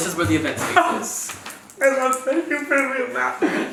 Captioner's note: laughs